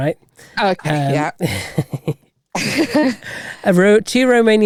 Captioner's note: laughing